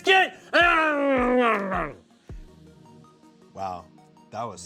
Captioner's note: growls